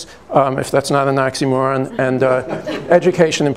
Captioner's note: light laughter